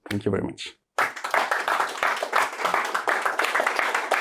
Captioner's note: applause